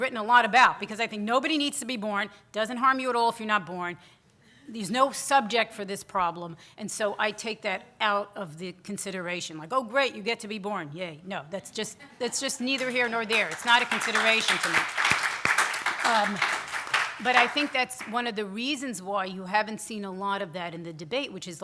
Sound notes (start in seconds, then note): 9.2 sarcastically; 15.7 audience applause